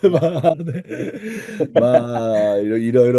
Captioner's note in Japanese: 笑い